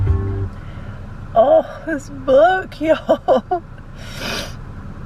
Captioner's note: chuckles